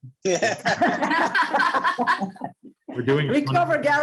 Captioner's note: all laughs